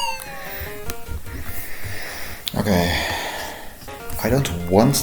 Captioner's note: sighing